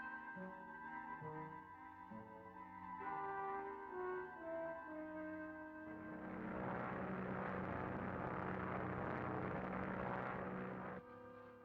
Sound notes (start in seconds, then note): 6.2 engine rumbling